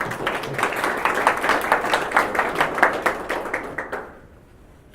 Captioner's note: applause